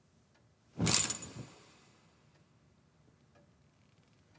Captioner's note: curtains rattling